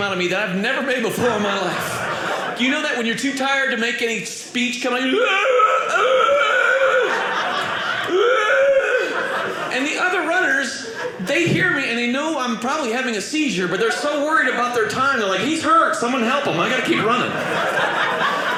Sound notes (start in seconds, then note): 5.4 groaning